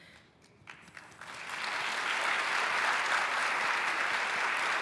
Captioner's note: applause